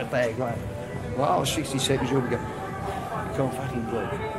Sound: panting

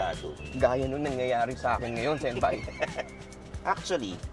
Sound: laughing

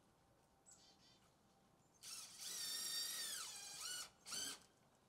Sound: drill whirring

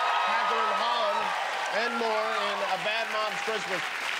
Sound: cheers and applause

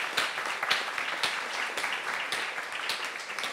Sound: applause

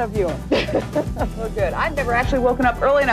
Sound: laughing

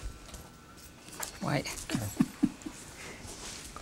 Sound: giggles

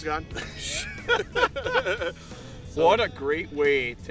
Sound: group laughing

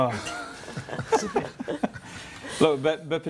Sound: all chuckle

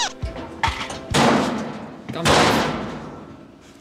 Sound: bang!!!

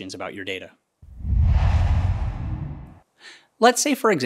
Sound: logo swooshes

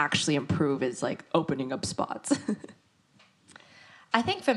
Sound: laughs

